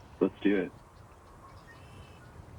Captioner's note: vento soprando